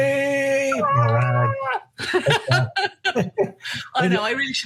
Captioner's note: laughing; cheering